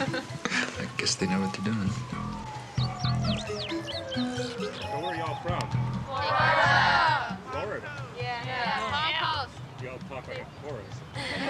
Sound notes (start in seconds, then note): 3.3 birds twittering; 3.3 sirens wailing